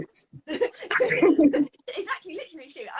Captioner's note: both laughing